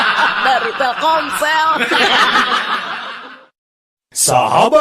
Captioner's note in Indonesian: tertawa